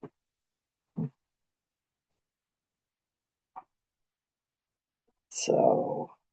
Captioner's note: pause